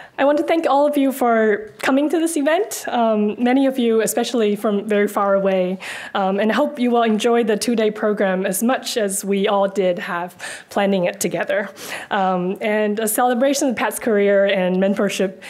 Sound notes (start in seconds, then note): none